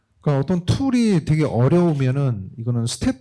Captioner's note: speaking korean